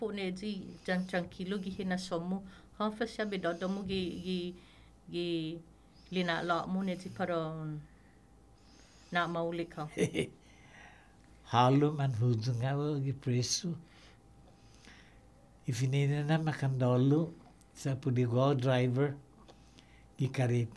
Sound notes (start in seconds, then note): 9.8 laughs